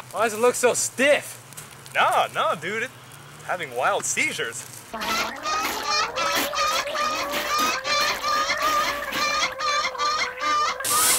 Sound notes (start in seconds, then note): 4.9 chicken clucking and gagging